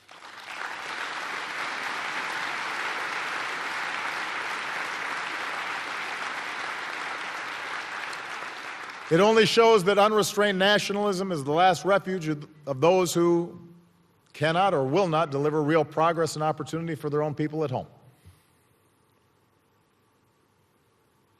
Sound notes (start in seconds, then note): 3.4 applause